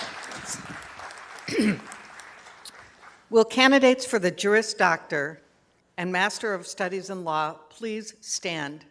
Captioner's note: applause